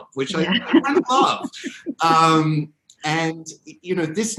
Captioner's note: laughing